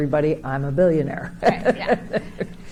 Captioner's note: chuckles